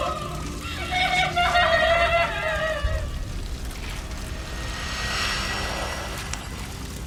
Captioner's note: sobbing; gentle tense music; fire crackling